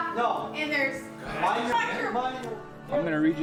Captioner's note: adults arguing